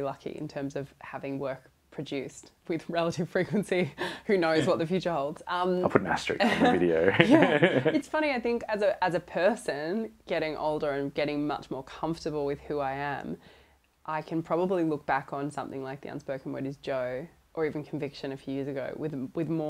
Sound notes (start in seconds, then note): 5.9 laughs